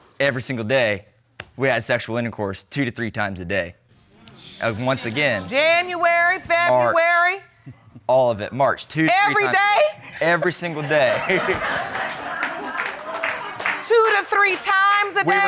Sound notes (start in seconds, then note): 10.2 all laughing